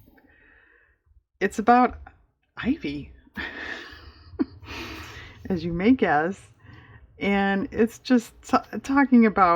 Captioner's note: laughs